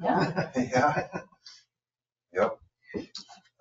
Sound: people chuckle

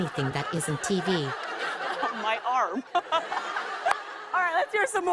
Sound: laughs

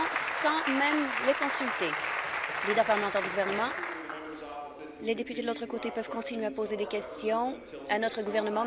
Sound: applause

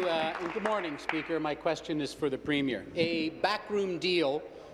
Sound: applause

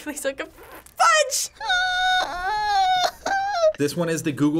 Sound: whimpering

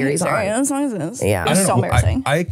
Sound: whispering

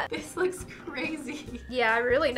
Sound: laughs

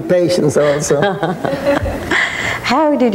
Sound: laughing

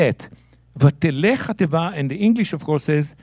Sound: speaking in Hebrew

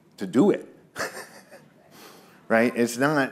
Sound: laughs

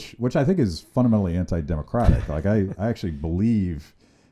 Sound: laughs

